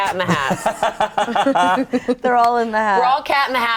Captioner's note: group laughs